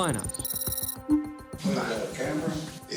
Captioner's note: computer beeps